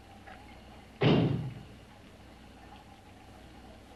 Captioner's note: bang